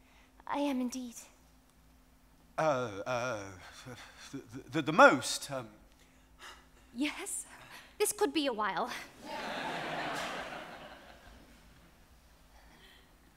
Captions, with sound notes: - I am indeed ... - Uh ... The most ... - Yes? - This could be a while. (audience laughs)